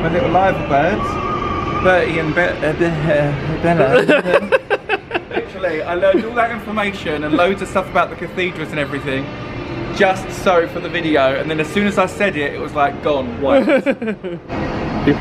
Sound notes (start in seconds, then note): 3.6 laughs